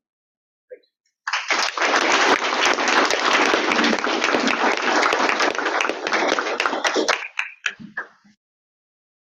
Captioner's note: audience clapping